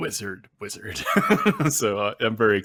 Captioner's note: chuckles